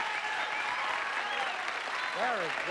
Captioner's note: audience applauding